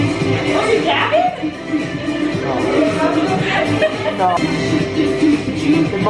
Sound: pop music plays; laughs

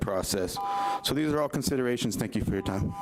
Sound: timer beeps

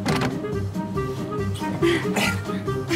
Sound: grunting

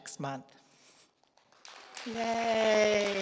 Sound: audience clapping

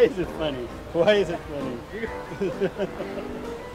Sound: laughing

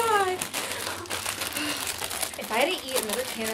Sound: chip bag rattling

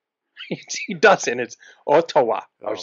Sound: laughs

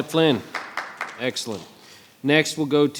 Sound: audience applauding

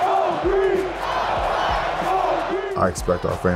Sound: crowd chanting

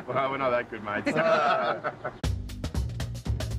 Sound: laughter

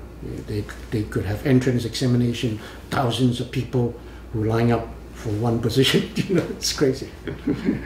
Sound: laughs

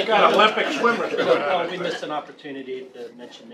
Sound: laughter

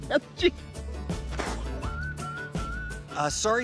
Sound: spits

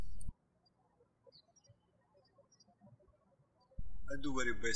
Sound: birds chirping

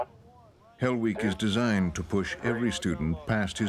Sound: voiceover

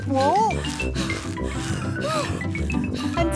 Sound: puffing and panting

